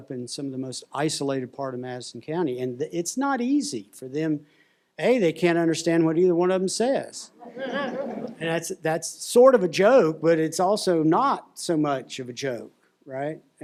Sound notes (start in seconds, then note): 7.4 laughter